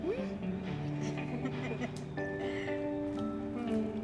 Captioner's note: laughter